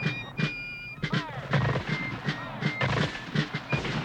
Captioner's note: musket fire popping